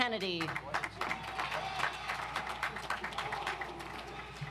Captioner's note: audience applauds